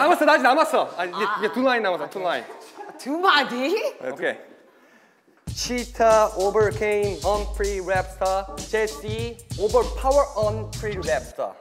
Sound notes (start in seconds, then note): 4.6 breathes